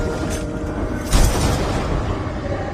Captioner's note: gunshot